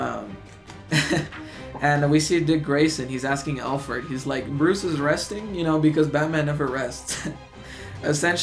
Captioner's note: chuckles